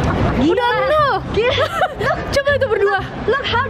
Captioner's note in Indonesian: Ketawa